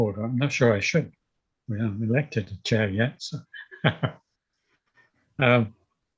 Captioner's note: chuckles